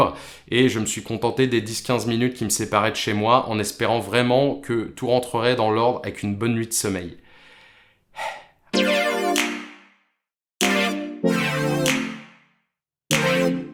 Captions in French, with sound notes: et je me suis contenté des 10-15 minutes qui me séparaient de chez moi, en espérant vraiment que tout rentrerait dans l'ordre avec une bonne nuit de sommeil. [souffle de soulagement]